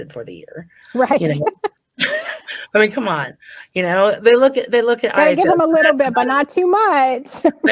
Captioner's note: laughing